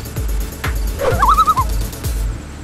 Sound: loon call

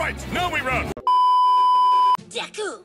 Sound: beep

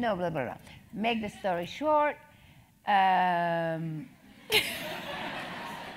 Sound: laugh

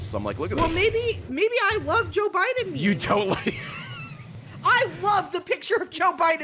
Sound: laughs

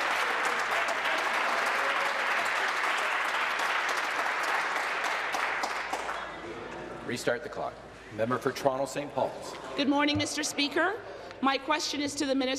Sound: applause

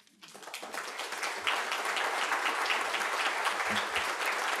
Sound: audience applauding

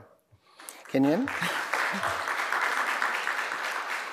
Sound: applause

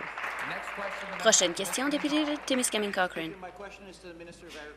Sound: applause

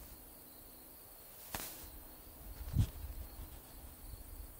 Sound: trees rustling

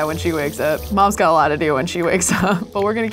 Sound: laughs

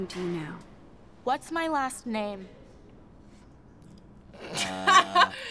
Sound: snorting

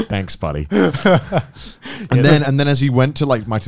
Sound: all laughing

